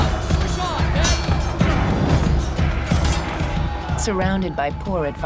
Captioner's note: armor clatters; dramatic music; swords clanging